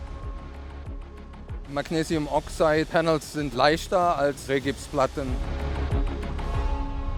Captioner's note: German